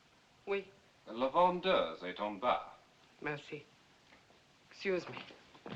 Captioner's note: speaking French